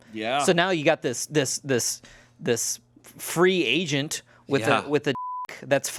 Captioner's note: beep